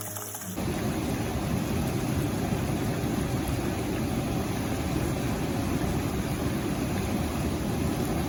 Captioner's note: river sound